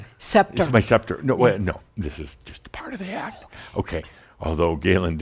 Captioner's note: whispers